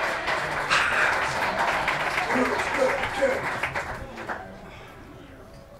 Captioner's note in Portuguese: aplausos